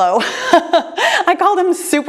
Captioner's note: laughs